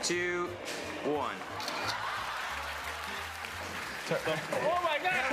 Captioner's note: camera shutter clicks